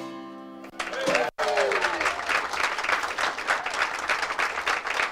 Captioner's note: audience cheers and applauds